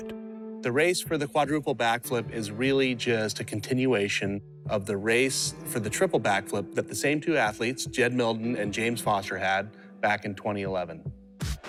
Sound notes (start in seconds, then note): none